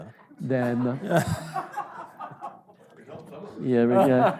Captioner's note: audience laughing